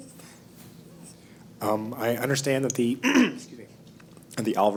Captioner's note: cough